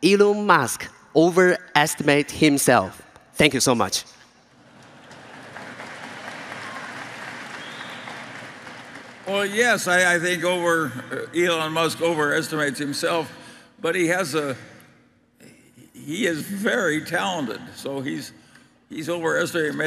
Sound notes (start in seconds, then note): 4.5 Applause; 8.9 掌聲